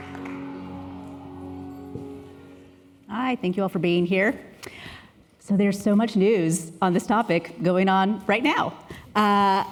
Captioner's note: applause